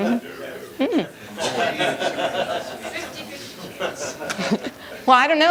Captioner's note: laughter